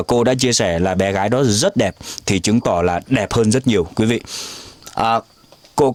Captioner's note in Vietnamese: khịt mũi